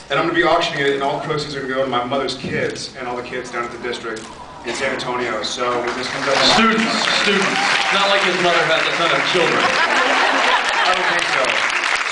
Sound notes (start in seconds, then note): 7.4 applauds; 9.4 applauds; 9.7 laughs, applauds; 11.8 applauds